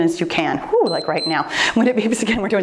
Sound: timer beeps

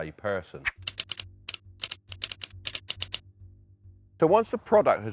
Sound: keys clacking

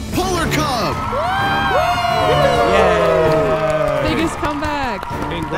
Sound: all cheering

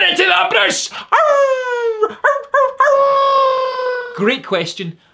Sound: howls

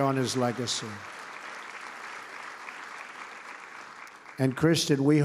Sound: applause

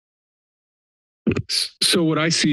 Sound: mic thumps

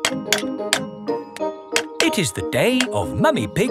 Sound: clanking

